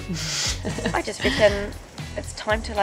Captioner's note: laughs